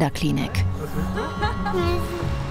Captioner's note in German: Lachen, sanfte Musik